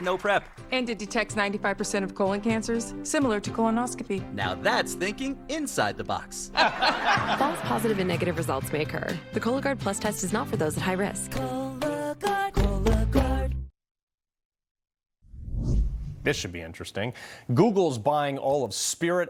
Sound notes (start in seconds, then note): 6.5 audience: laugh track